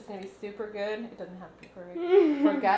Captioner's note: laughs